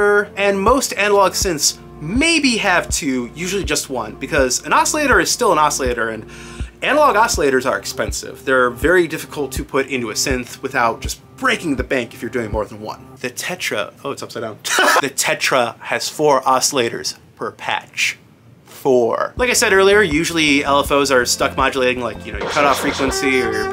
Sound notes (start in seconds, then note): 14.7 laughs